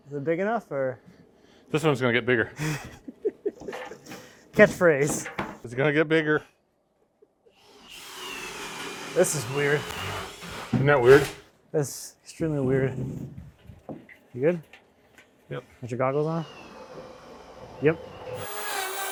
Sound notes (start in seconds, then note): 2.5 laughs; 7.6 drill sound; 18.9 drill sound